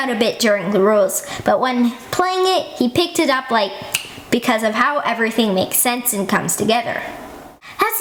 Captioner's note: snap